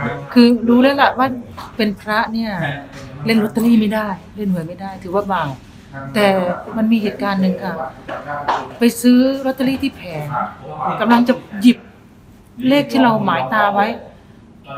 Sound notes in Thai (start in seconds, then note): none